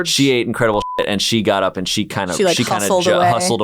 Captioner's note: beeping